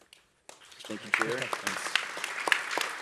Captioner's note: applause